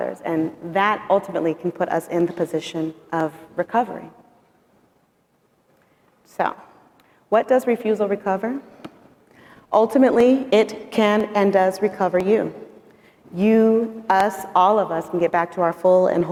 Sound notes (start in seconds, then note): none